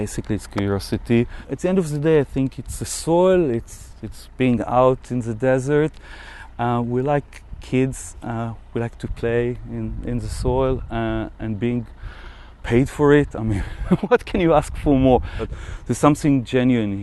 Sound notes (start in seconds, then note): 13.5 laughs